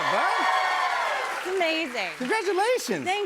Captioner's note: cheers and applause